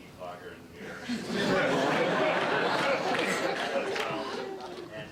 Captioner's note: laughter